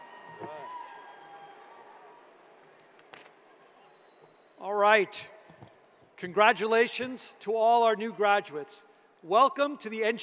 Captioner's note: cheers and applause